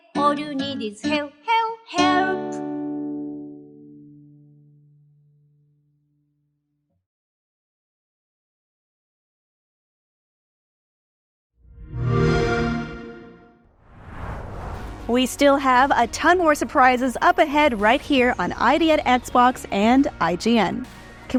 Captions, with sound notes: [XBOX SOUND] We still have a ton more surprises up ahead right here on ID@Xbox and IGN.